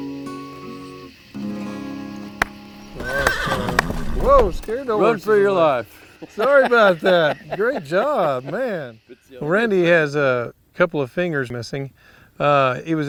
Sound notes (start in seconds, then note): 2.4 clapping; 2.8 horse neighs